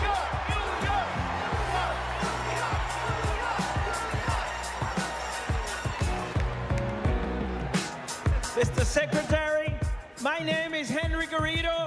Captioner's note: chanting "new york"